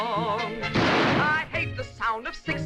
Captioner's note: gunshot